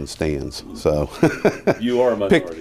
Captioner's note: laughs